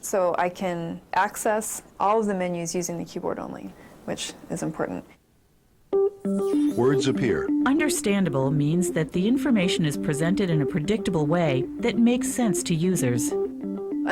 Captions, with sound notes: So I can access all the menus using the keyboard only which is important. - [Voiceover] Words appear. - [Voiceover] Understandable means that the information is presented in a predictable way that makes sense to users.